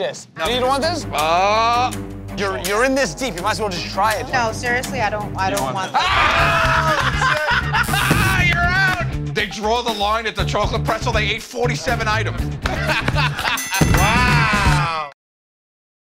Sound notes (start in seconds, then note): 5.9 laughter; 12.6 laughter; 13.4 ding!